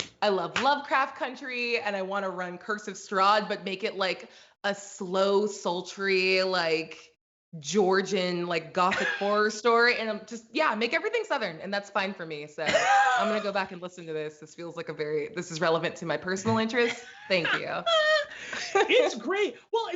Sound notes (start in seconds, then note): 16.5 both laugh